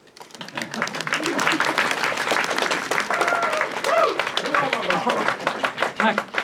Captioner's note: captains and audience applaud and hurrah